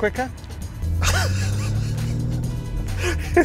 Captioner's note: laughs